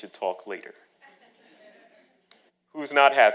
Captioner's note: audience laughing